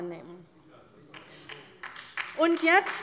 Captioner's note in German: Beifall bei der LINKEN